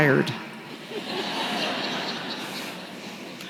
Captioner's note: laughter